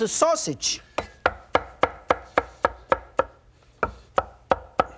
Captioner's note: repeated tapping